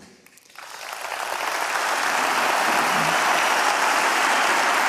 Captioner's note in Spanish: Aplausos